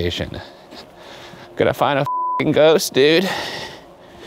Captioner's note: beep